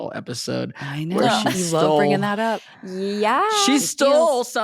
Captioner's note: Michaela laughs